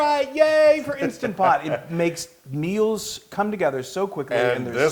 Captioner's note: laugh